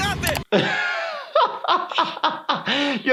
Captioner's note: laughing